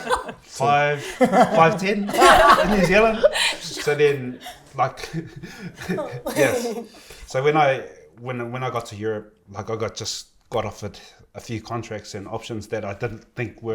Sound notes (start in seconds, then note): 0.9 laughter; 5.2 chuckles